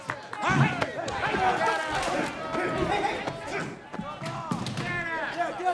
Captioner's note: attendees yelling